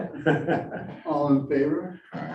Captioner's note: all laughing